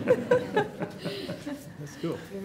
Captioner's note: laughter